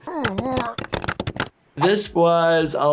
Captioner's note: groaning